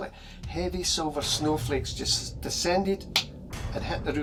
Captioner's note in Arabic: يقلد الضجيج